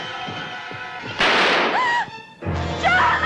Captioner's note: gunshot; Judy groaning